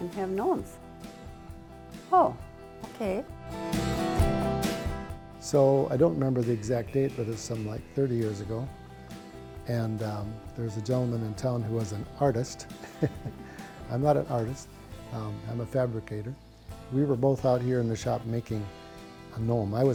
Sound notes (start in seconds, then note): 3.7 upbeat music; 12.8 laughing